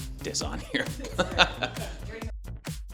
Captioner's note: all chuckling; smooth upbeat music